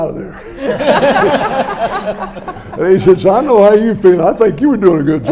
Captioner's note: audience laughs